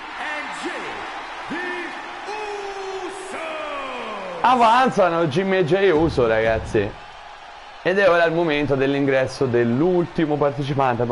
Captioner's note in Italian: Applauso